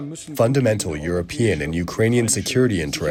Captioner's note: through translator